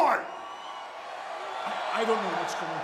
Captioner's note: audience cheering